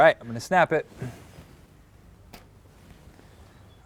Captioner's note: line snaps, making a blue line